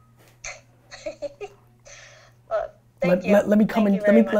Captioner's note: laughs